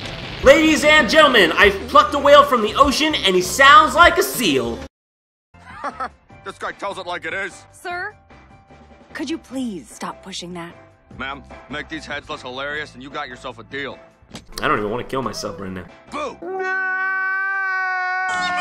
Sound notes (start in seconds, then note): 5.6 Soos laughs